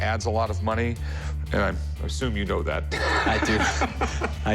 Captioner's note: laughs